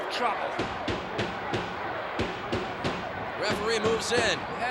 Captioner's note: loud banging